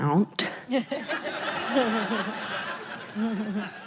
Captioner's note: laughing